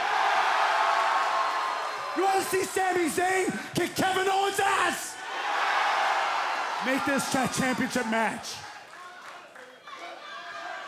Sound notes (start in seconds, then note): 0.2 crowd cheering; 5.5 crowd cheering